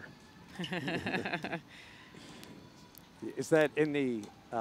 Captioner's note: laughing